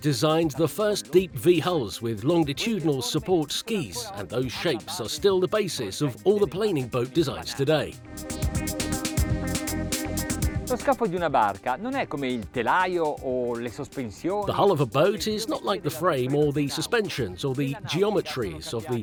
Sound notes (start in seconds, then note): 9.2 upbeat music; 11.2 speaking foreign language